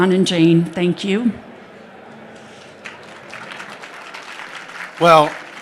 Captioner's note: applause